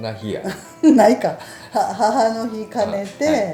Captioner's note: laughs